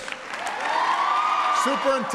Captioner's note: applause